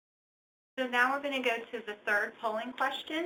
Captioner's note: voiceover